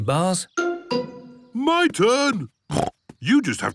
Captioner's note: snorts